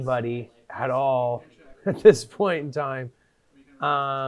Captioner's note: chuckling